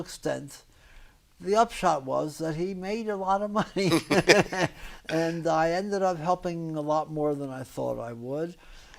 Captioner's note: laughs